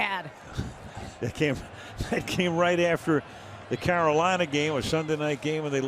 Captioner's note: laughs